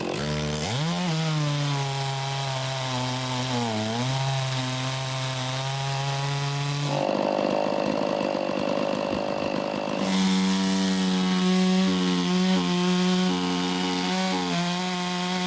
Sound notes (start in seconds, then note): 0.6 saw buzzing; 7.5 engine puttering; 11.1 saw buzzing